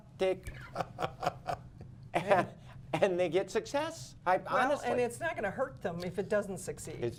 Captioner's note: laughter